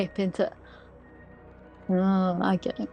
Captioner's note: gasps